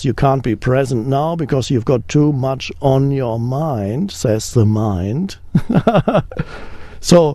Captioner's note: laughs